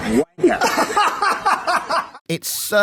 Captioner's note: laughter